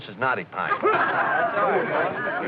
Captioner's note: excited chatter